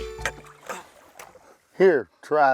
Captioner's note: tired grunting